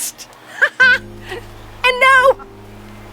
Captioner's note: giggles